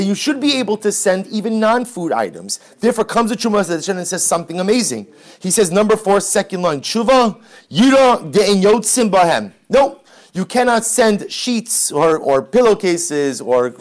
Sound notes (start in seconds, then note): 8.7 Hebrew